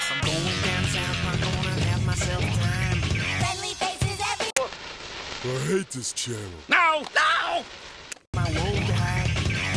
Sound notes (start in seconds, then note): 4.7 static sound